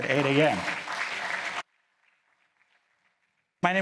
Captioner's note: applause